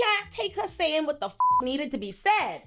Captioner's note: beep